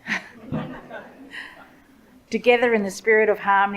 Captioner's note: audience laughs